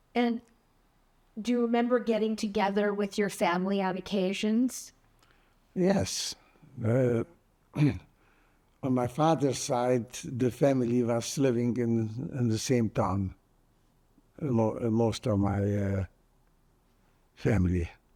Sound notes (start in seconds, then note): 7.7 clears throat